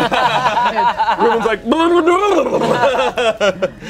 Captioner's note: everyone laughs; makes silly sound; everyone laughs